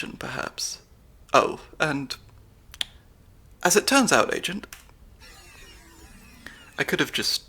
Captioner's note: laser grid powers down